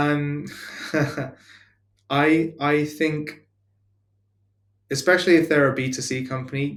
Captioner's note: laughs